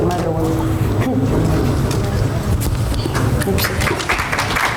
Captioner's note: audience applauds